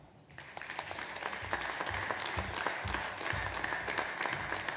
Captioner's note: audience applauds